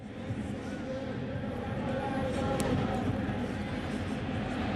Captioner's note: pa announcement